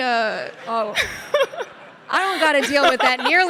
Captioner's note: Sydney and audience laughing